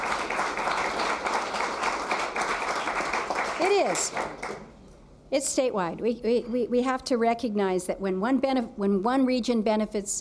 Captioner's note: applause